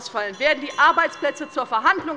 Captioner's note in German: Anhaltende Unruhe - Glockenzeichen des Präsidenten